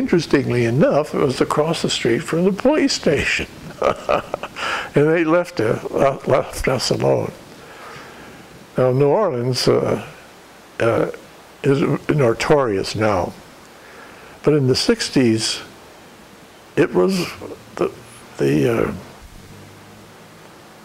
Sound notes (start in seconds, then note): 7.1 laughter